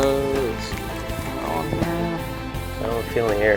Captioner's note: voiceover